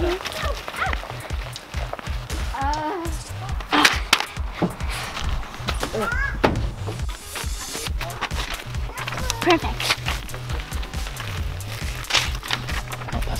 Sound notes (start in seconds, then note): 3.8 paper rattles